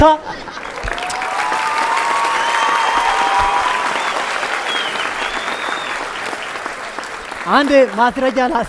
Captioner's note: applause and whistle